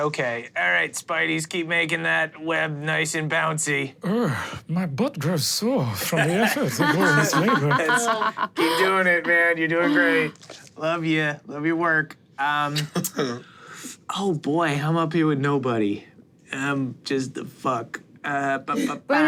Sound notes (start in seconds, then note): 7.6 everyone laughs; 12.0 chuckles